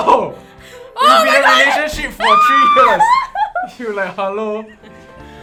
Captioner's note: screaming even more hysterically